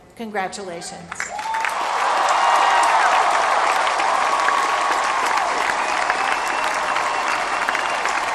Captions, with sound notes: Congratulations. [APPLAUSE]